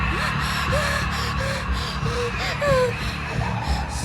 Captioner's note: epic horror music; gasps